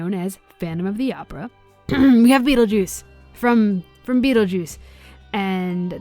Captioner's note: clears throat